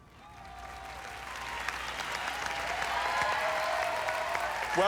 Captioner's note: applause, cheering